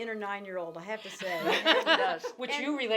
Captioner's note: laughing